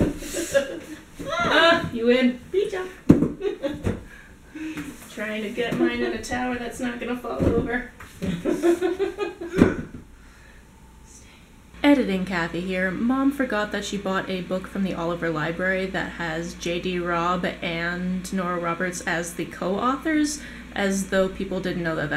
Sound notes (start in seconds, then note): 0.0 laugher; 0.0 laughter; 0.1 laugher; 1.7 cheers; 3.4 laughter; 8.3 laughter